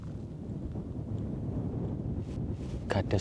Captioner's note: sound of the wind